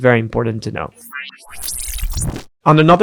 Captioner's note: machine whirring